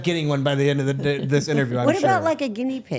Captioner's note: Stephanie and Elyse laughing